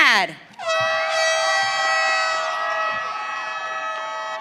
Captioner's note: audience cheering